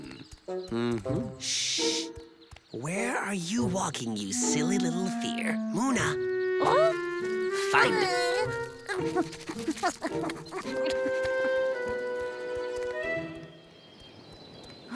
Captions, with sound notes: Hm. Sh. Where are you walking you silly little fear? Mona, find it. (Mona sniffing sounds)